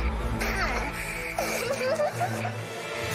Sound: giggles

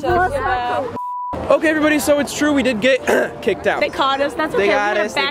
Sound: cough

